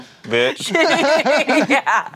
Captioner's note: everyone laughs